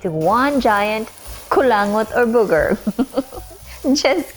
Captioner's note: chuckling